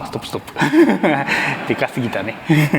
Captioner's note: chuckles